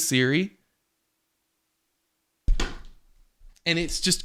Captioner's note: silence